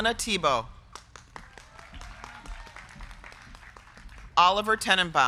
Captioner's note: crowd clapping; crowd cheering